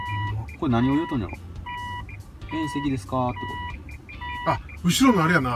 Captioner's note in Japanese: バックソナーの警告音